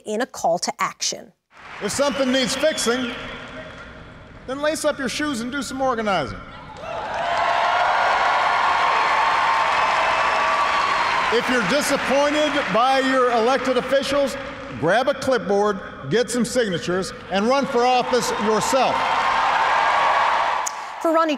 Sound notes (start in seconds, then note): 12.3 applause